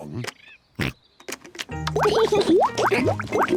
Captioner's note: oinks; laughs